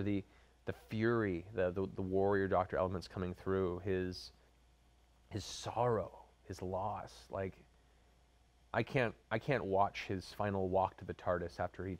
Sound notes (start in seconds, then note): none